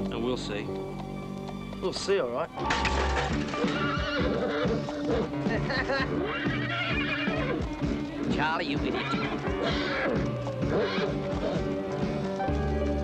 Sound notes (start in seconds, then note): 2.6 bucket clangs; 3.0 horse whinnying; 5.4 Charlie laughing